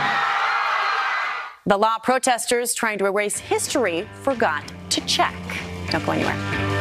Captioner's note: cheers and applause